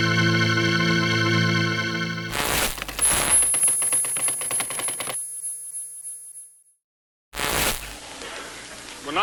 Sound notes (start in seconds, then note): 2.7 static crackling; 2.8 keys clicking; 7.4 static crackling